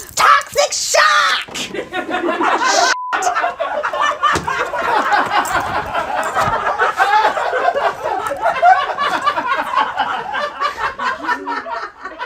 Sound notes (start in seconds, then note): 1.6 audience laughs; 2.9 beep; 3.9 audience laughs